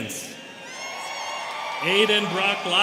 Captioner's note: students cheering